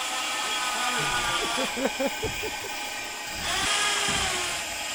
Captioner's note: laughs